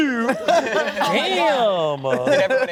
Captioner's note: laughter